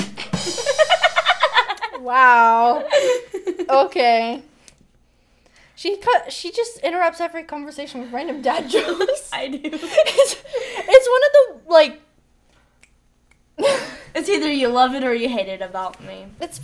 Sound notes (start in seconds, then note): 0.0 drum rim shot; 0.2 laughs; 9.4 both laughing